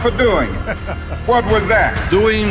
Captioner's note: Trump laughs